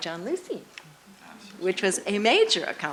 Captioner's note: voiceover